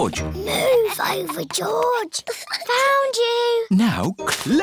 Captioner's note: whispers